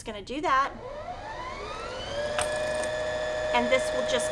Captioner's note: machine whirs